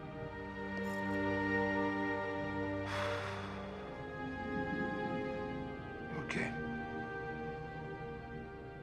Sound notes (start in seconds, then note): 2.8 sighs